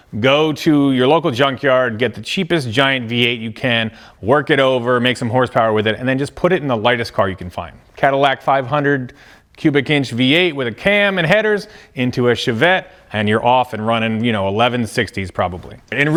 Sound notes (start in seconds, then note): none